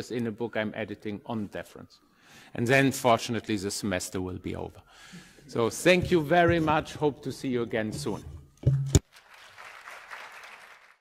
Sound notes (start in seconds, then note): 9.0 audience applauding